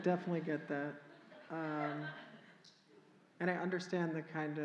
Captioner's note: audience Laughter